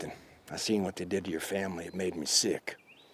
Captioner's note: none